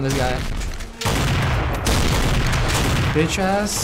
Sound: loud gunshots

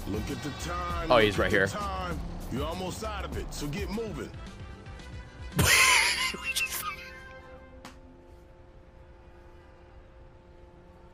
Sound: laughs

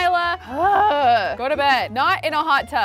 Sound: groans

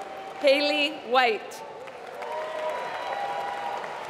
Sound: applause

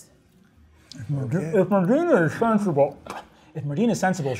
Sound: spits

